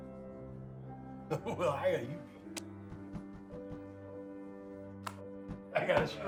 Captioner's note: laughing